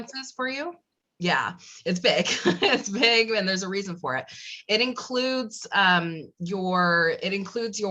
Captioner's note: laugh